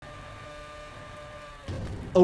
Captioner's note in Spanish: ruido sordo del vehículo; zumbido del vehículo